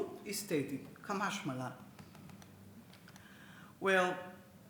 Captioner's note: speaks Hebrew